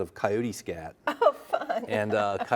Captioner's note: laughing